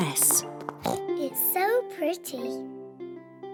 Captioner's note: oinks